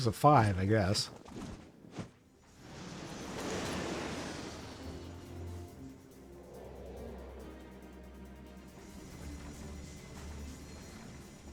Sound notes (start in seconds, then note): 2.5 explosion